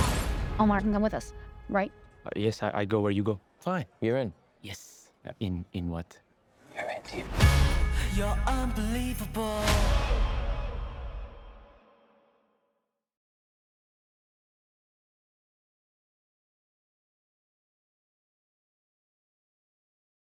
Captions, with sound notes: Omar can come with us, right? Uh, yes. I-I go where you go. Fine, you're in. - Yes! In… In what? - [whispers] You're in deep--